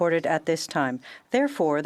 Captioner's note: speaking French